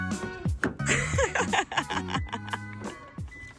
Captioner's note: more endorphin-fuelled giggling